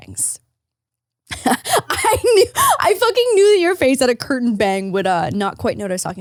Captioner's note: laughs